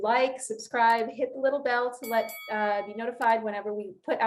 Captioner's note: bell dings